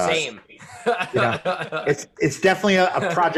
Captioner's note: laughter